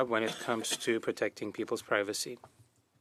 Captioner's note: speaking French